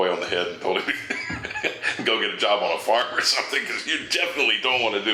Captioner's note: chuckles